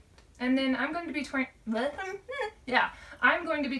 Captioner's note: stumbles over words